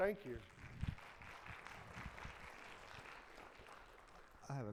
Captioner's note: audience clapping